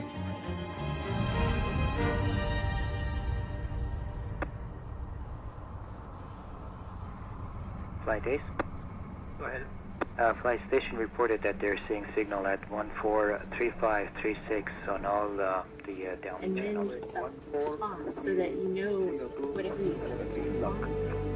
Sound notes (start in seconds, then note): 4.2 upbeat music; 8.2 wind whooshing